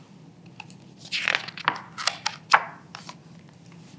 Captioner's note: pages rustling